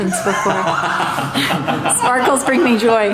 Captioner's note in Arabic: يضحك